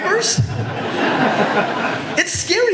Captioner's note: audience laughter